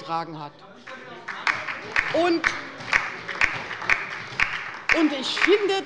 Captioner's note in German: Beifall bei der LINKEN